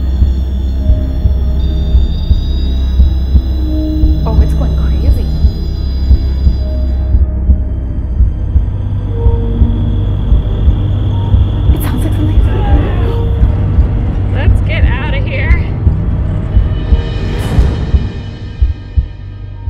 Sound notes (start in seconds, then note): 0.2 equipment whines; 7.5 ominous music; 9.4 crickets chirping; 12.9 scream echoing; 16.3 ominous music